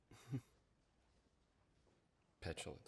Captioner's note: chuckles